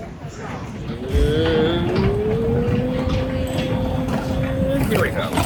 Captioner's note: groaning